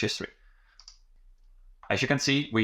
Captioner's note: mouse clicking